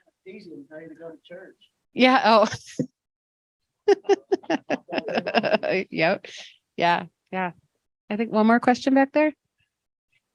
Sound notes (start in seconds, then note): 3.8 laughs